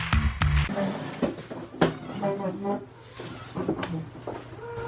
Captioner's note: chair sliding; walking on wood floor